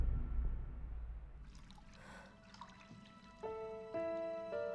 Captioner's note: Mattie sighs; water gently splashing; contemplative music